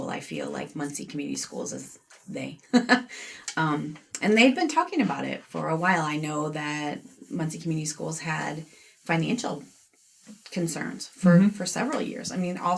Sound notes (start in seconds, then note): 3.6 laughs